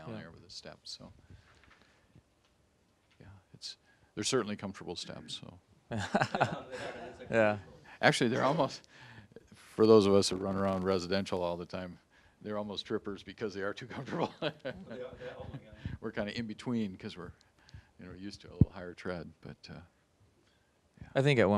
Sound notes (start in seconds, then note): 6.1 audience laughing; 14.0 laughing